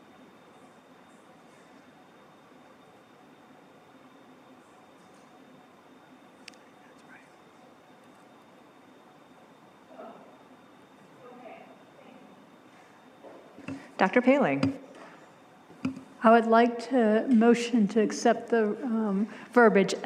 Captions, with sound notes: >> [Whispers] Dr. Poehling. >> Okay. I think -- >> Dr. Poehling. >> I would like to motion to accept the verbiage